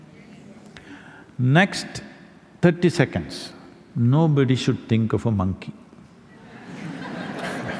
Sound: laughter

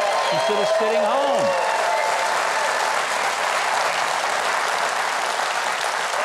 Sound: audience cheers and applauds

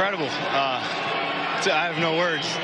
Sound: cheers and applause

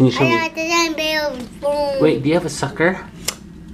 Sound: child mumbling

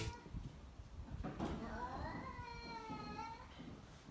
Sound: cats meowing

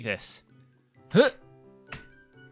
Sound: noise of effort

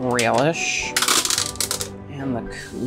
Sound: can opening

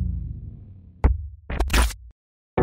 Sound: digital glitch

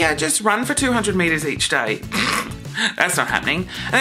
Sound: pfff

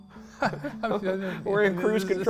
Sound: both chuckling

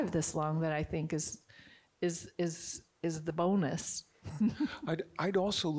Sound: chuckles

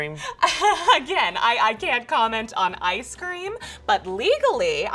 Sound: chuckles

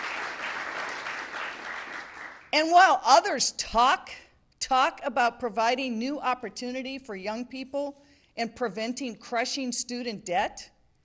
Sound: applause

